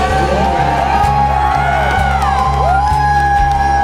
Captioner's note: crowd whooping